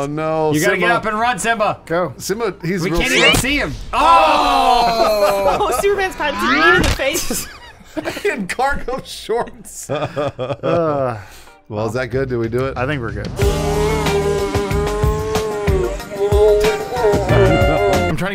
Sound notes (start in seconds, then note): 7.8 laughing; 9.8 laughter